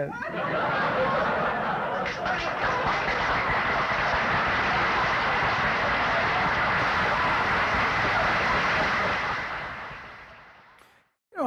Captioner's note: laughter and Applause